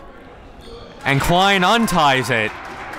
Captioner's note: crowd clapping